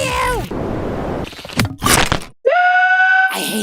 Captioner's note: whoosh, stab, chomp